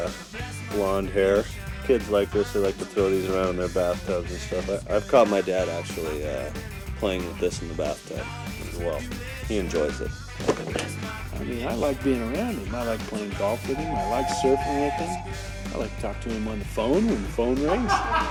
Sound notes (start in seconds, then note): 13.8 phone rings; 17.6 man laughing in background